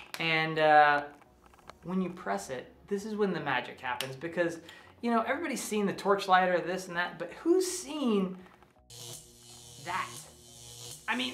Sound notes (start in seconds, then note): 8.7 buzzing